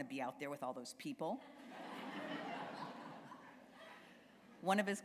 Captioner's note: laughter